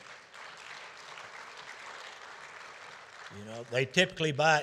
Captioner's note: audience applauding